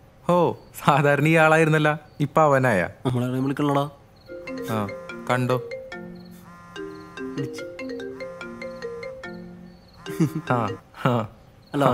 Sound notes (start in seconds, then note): 4.5 phone ringing; 10.1 laughter